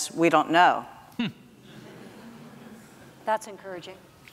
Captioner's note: audience laughs